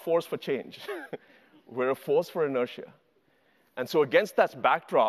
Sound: laughs

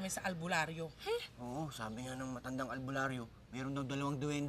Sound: scoffs

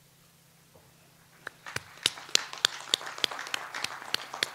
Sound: audience applauds

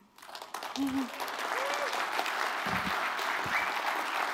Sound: applause

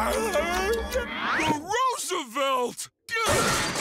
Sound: grunting

